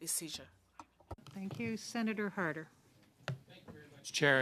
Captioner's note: speaking French